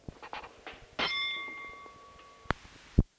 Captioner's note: bell Sound